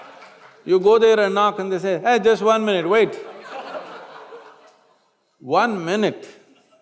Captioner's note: laughter; laughter; laughter